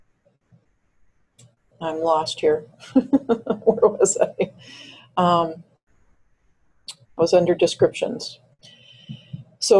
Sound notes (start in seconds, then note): 2.9 chuckles